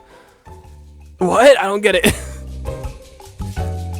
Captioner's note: laughing